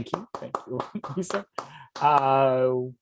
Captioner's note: applause